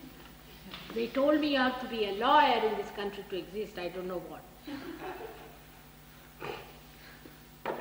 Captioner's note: laughter